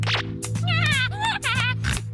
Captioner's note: cackling